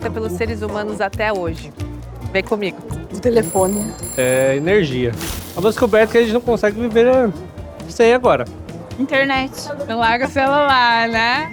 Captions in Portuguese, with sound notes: pelos seres humanos até hoje? Vem comigo. -O telefone. -[telefone toca] -Energia. -[zunido elétrico] Uma descoberta que a gente não consegue viver sem, agora. Internet. Não larga o celular, né?